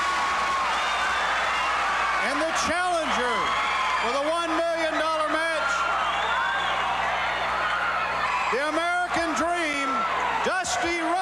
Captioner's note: crowd cheering